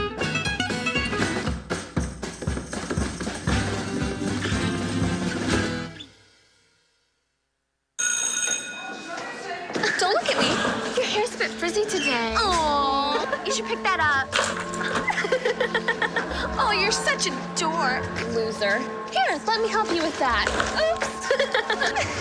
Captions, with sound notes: [school bell ringing] >> Don't look at me. >> Your hair's a bit frizzy today. >> Aww. >> You should pick that up. [evil giggling] >> Oh, you're such a dork. >> Loser. >> Here, let me help you with that. Oops!